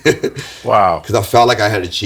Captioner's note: laughs